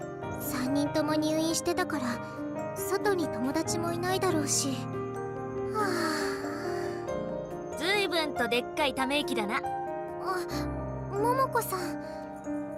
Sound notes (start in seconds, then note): 5.7 sigh